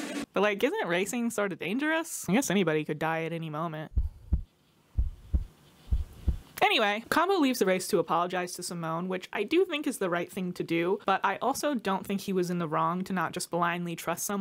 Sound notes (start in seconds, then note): 3.9 heart beating